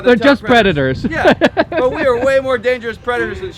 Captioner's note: laughing